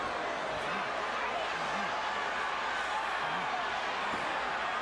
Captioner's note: crowd chattering